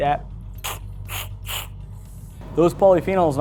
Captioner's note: sucking